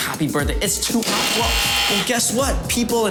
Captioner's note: buzzing